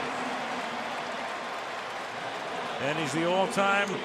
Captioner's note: cheering